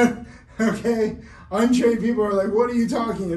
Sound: laughs

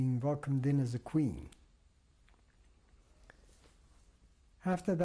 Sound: pauses for 3 seconds

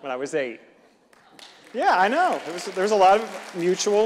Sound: audience clapping

